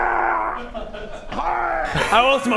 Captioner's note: hrgh